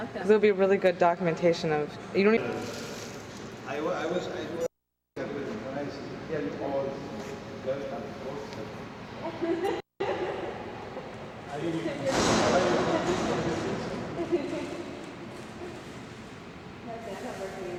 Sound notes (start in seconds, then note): 12.1 door slamming